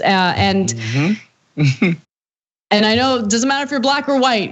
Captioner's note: laugh